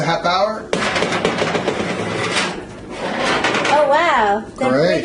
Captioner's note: oven door